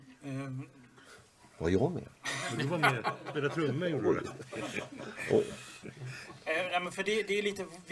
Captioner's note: laugh; laugh